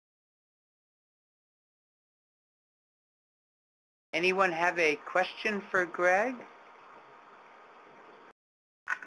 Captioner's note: pause